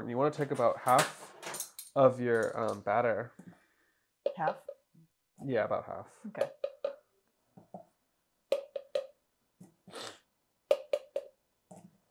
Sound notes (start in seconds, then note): 6.6 plastic clinking